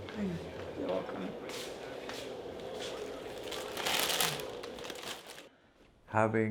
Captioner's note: bag rustling